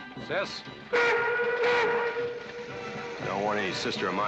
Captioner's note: train whistle blowing